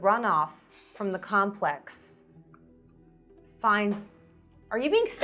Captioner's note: laughing